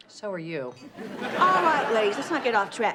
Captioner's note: audience laughs